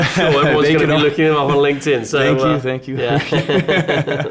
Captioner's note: laughs